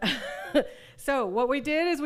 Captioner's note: laughs